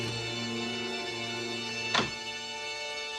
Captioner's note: click